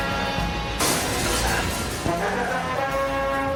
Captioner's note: glass shatters